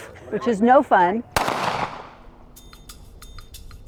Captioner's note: gun firing; upbeat percussive music